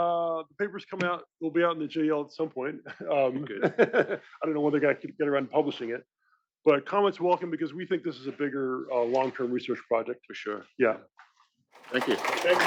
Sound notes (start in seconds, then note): 2.8 laugh; 11.8 applause